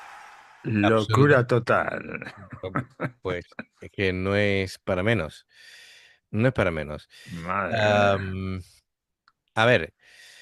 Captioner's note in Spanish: ovación; risas